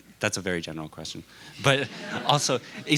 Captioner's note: laughter